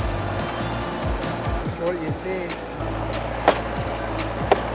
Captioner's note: machine pounding